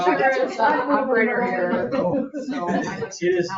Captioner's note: people chuckle; people chatter